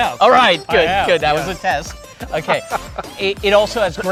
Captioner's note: laughs